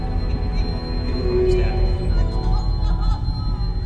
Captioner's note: Betty sobbing